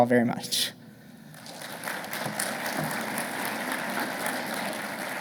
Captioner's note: audience applauding